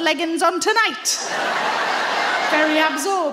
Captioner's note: audience laughing